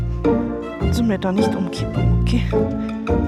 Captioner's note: german